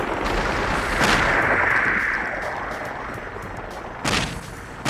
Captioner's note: gunshots booming